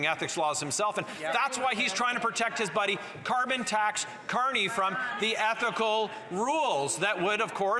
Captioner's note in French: voix de l'interprète